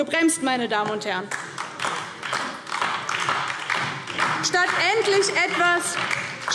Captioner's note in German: Beifall DIE LINKE